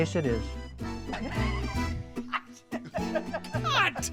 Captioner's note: laughs